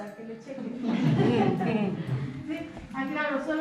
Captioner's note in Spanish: risas